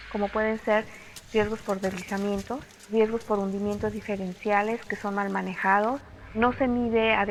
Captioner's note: none